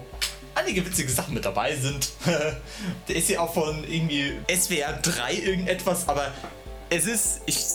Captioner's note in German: gelächter